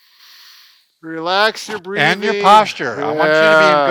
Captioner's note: inhales slowly